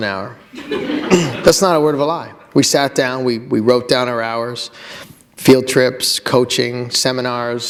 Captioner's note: laughter